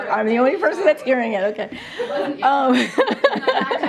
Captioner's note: laughter